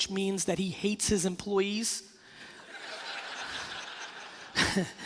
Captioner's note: laughing